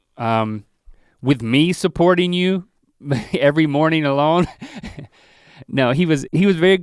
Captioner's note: chuckles